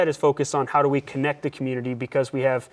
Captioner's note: none